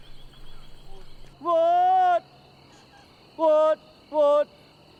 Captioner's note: calls